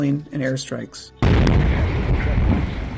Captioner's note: explosion